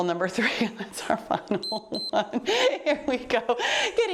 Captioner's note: timer beeps